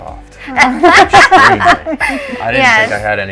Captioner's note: laughing